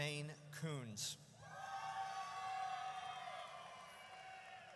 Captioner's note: audience cheers